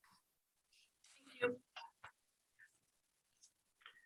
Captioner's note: speaking away from mic